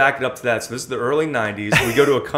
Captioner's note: laughter